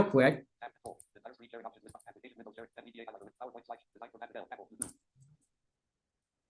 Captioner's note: screen reader narrating extremely rapidly